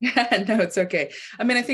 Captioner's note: laughing